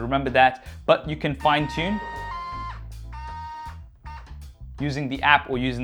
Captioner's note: buzzing